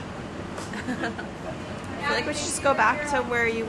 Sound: chuckling

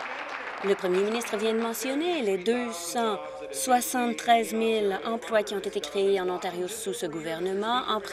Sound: applause

